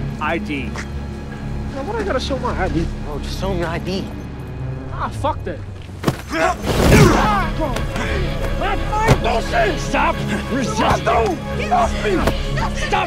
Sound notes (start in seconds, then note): 6.0 body slamming; 7.4 Jake shouting